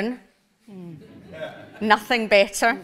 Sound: audience laughs

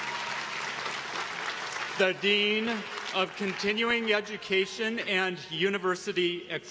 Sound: applause

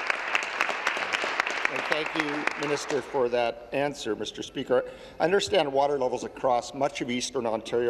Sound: applause

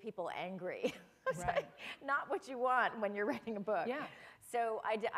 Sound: chuckle

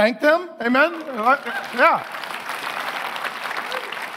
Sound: congregation applauding

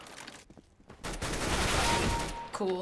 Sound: firing; kill chime

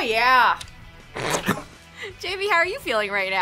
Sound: laughs

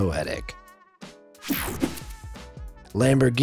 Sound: swooshes

